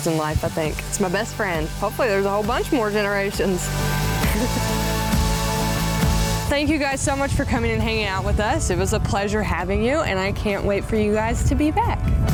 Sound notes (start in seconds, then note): 4.2 laughs